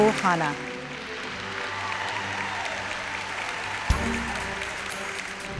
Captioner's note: cheering and applause